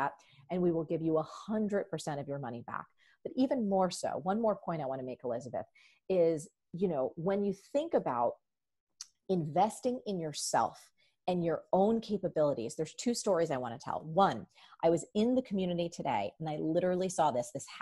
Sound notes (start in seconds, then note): none